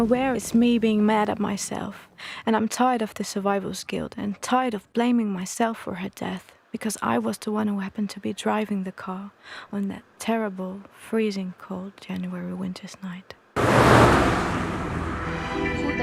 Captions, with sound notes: I am aware it's me, being mad at myself... ...and I'm tired of the survivor's guild and tired of blaming myself for her death... ...because I was the one who happened to be driving the car... ...on that terrible, freezing cold January winter's night. [Ferrari revving]